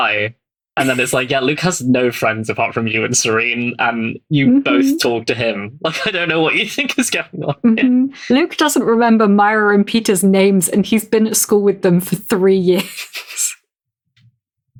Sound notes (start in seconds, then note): 0.8 laughs; 9.2 laughing